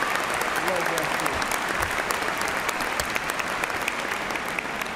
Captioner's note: cheers and applause